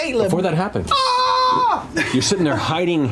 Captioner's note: screams